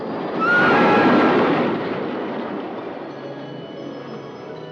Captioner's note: screaming